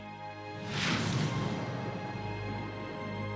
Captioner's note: whooshing